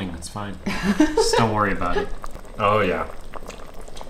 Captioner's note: laughing